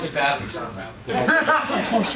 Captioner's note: audience laughing